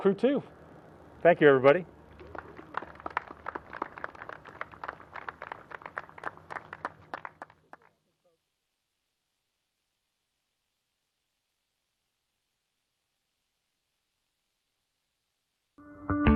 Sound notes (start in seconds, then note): 4.8 applause